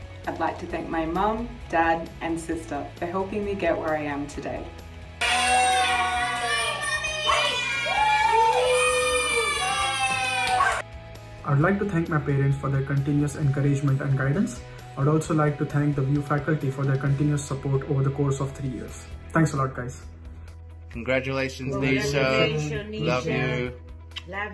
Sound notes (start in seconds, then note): 5.2 people cheering